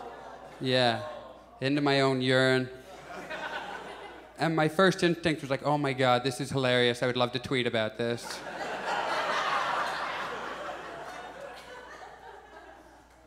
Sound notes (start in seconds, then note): 2.8 audience chuckles; 8.2 audience laughs